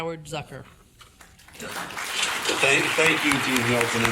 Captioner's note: audience applauding